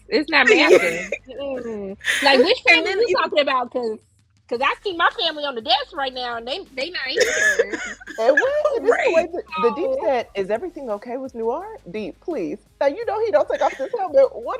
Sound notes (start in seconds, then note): 0.4 laughing; 7.1 laughing; 13.5 laughing